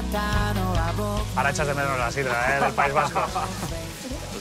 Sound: laughs

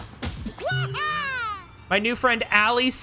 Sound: Luigi Noises

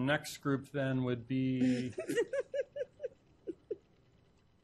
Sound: spokeswoman laughs

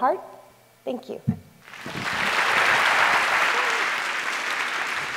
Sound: applause

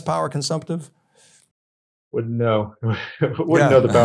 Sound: and host chuckling

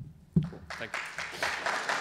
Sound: clapping

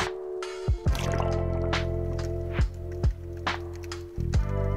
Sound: water gurgling

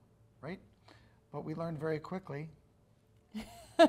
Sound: laughs

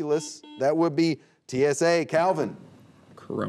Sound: buzzer beeping

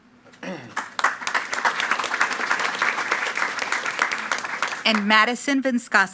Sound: attendees clapping

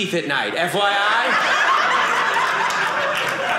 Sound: audience laughing

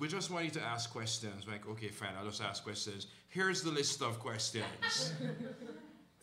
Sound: laughter

